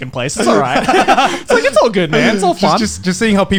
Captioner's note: laughing